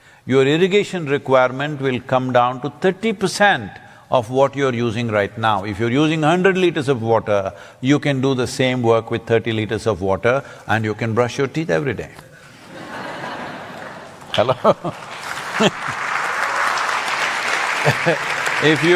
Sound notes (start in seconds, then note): 12.6 laughter; 14.8 applause